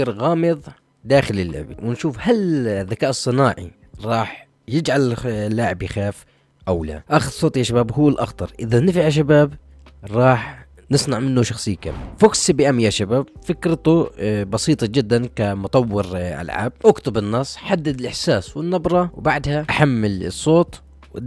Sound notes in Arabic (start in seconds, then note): none